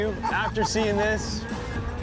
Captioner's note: laughs